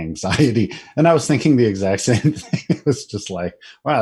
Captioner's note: laughing